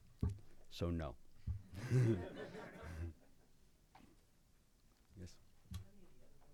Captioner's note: laughing